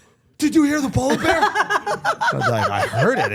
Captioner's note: everyone laughing